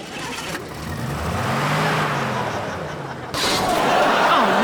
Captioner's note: engine revving